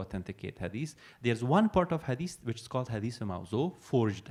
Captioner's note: non-english